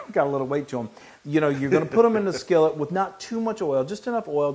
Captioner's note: laugh